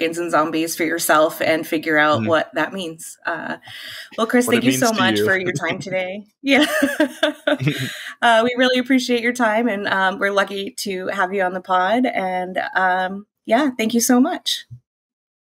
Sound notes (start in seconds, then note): 3.6 chuckles; 6.7 laughs